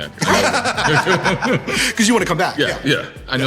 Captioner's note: laughter